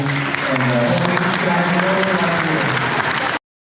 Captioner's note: applause